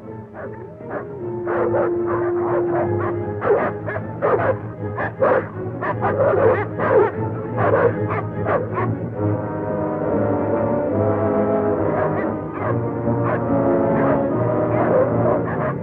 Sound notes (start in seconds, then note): 0.0 dogs howling; 2.3 barking